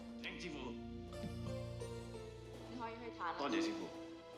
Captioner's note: speaking chinese